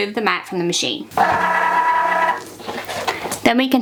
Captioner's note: machine whirring